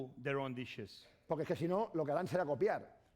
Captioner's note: speaking spanish